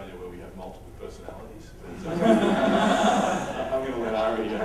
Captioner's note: laughter